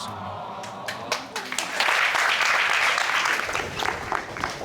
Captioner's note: crowd cheering